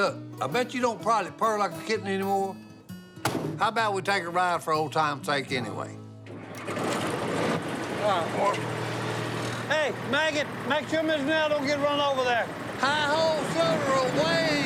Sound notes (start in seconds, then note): 6.2 engine starts